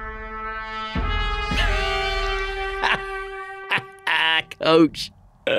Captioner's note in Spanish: música de tensión; Ellis se ríe